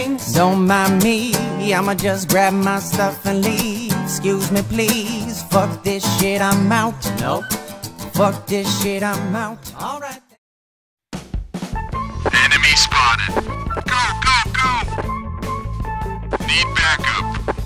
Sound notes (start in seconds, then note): 12.1 radio distorted